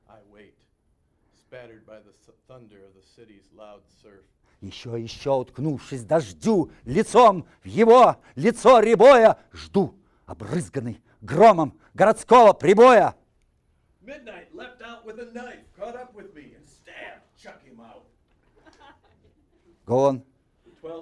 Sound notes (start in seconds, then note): 4.8 reciting poem in Russian; 18.3 audience laughing